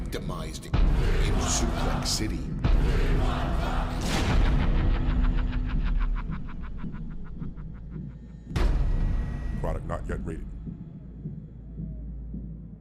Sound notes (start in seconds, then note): 7.2 evil laughter